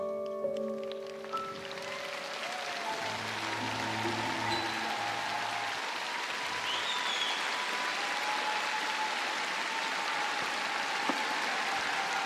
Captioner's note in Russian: аплодисменты